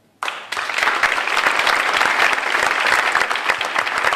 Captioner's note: audience applauding